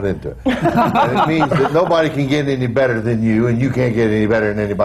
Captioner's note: laughter